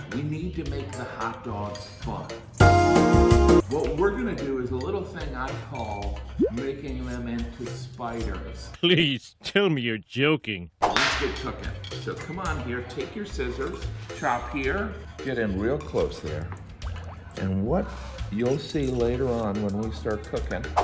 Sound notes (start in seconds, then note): 2.6 elevator music; 10.9 whip cracking